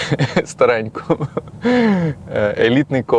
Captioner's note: laughs